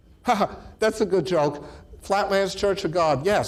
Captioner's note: laughs